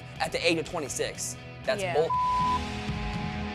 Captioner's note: beep